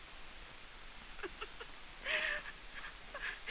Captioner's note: crying